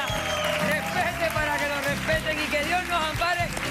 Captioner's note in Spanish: aplausos